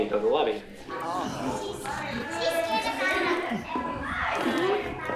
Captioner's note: crowd chatter